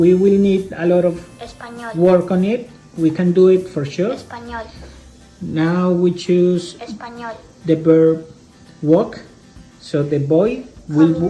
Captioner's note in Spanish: espanol